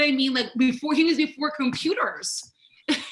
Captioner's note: laughs